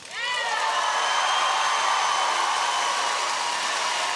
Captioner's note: audience cheering